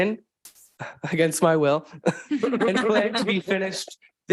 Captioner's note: participants laughing